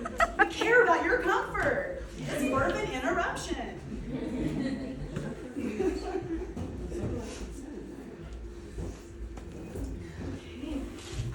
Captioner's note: audience laughter